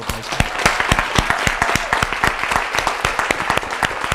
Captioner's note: audience applauding